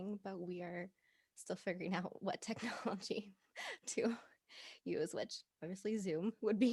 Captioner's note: laughing